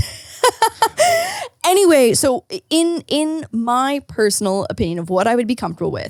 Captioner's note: laughing